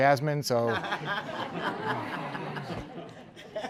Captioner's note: laughter